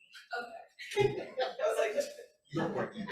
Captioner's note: laughs